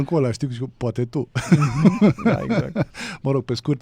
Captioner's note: laughter